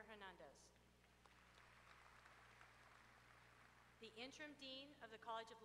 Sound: applause

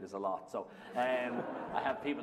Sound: laughter

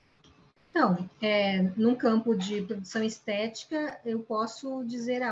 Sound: speaking in Portuguese

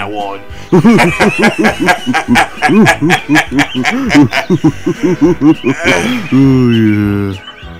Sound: William and Malcolm Laugh

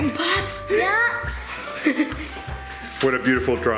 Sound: laughs

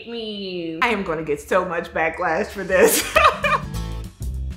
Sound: upbeat music; laughs

